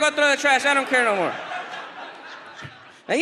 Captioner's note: audience laughs